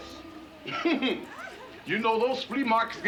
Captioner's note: chuckles